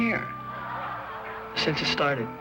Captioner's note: laughter